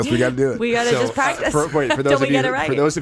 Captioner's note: laughing